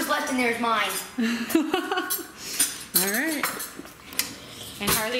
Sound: laughing

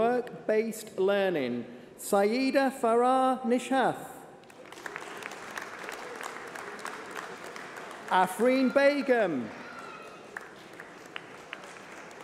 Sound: applause

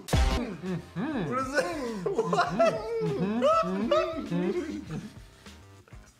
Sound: laughs

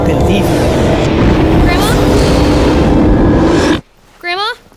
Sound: loud whooshing

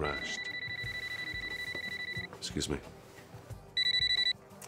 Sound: phone rings

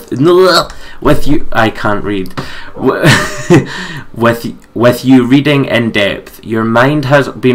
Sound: laughs

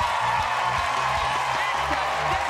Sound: cheers and applause

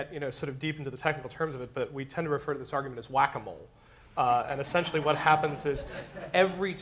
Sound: laughter

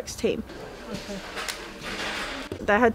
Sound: warehouse noise

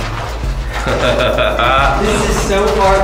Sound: laughs

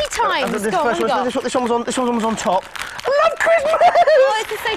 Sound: giggles

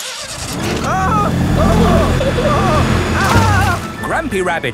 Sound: grandpa screaming

